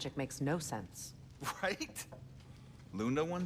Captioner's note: laughing